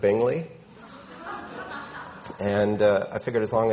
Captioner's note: people laughing